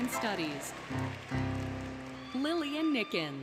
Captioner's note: applause, Cheering, Music